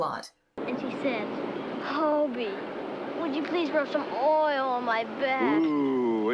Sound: in a moaning voice

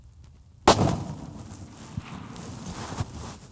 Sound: gun fires

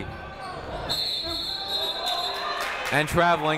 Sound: whistle blowing

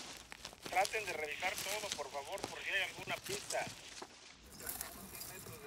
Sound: man on radio speaks Spanish

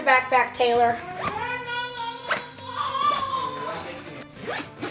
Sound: Parker yelling

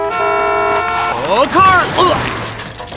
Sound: horns blowing; groans

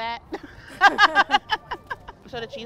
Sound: laughing

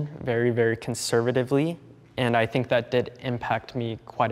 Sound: none

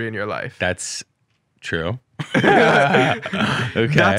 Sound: both laugh

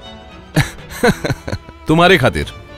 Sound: laughs

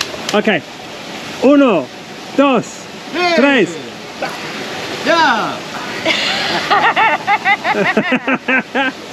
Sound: laughter

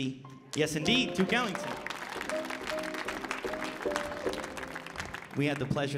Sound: audience applauding

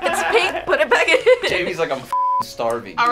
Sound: beep

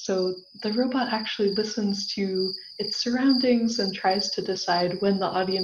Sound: cricket sounds

